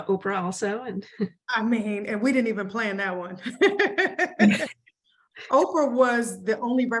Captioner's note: laughs